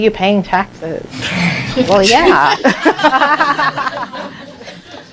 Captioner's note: laughter